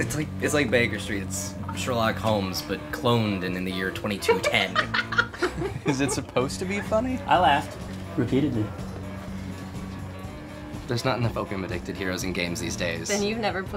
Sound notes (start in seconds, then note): 4.2 laughing